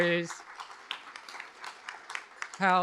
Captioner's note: applause